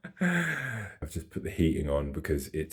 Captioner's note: laughing